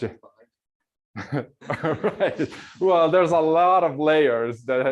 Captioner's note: laughs